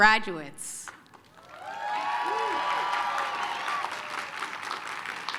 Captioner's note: applause, cheering